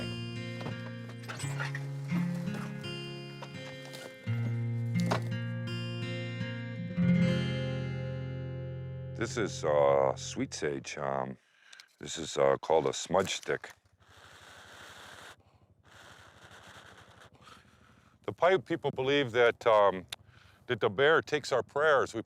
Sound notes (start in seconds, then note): 0.3 soft dramatic music continues; 5.2 door clicking; 14.0 blowing